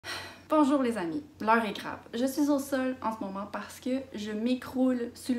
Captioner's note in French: soupir